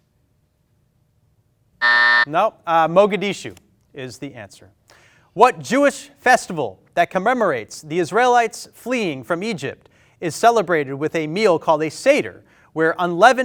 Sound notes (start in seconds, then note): 1.8 buzzer